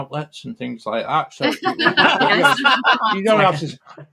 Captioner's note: laughter